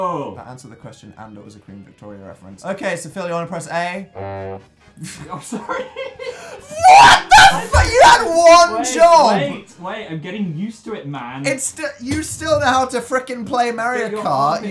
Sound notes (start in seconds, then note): 4.2 fail noise; 5.0 laughs